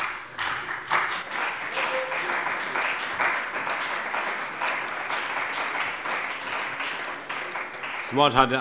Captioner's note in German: Beifall bei der CDU und dem BÜNDNIS 90/DIE GRÜNEN